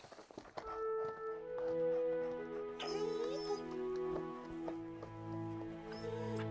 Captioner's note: gentle music; Buck whines softly